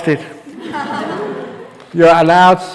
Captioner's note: laughs